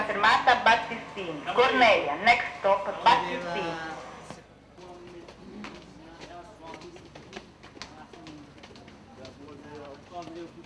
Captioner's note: automated announcements; background chatter